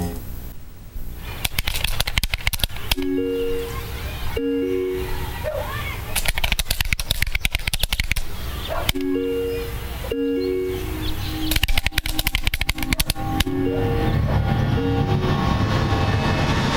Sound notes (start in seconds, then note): 1.4 computer keys clicking; 10.9 ominous music